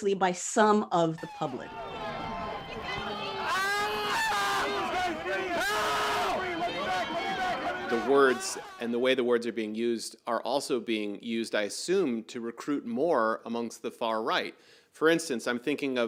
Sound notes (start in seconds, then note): 6.2 screaming